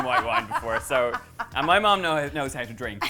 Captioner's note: laughs